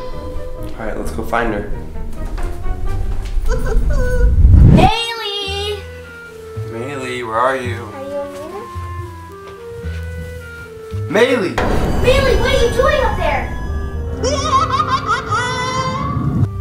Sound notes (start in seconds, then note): 3.5 laughing; 14.3 laughing